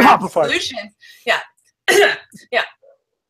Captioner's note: coughs